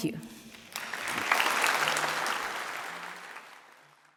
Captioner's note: audience applauds